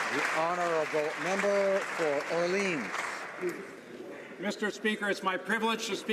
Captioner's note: applause